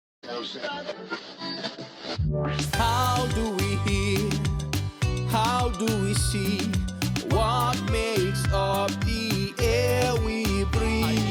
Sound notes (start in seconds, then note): 0.3 radio tuning